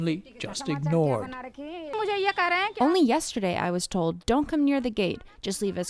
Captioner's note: through translator